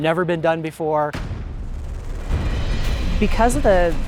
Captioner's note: helicopter whirring and cymbal crashing